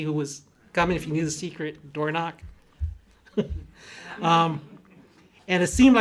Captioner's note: laughs